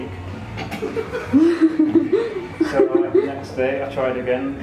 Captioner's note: laughter